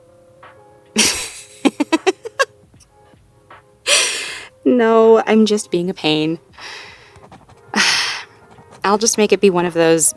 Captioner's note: laughs, playfully sighs